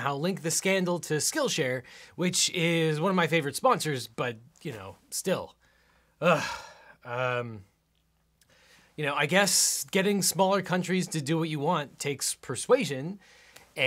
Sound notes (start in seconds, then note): none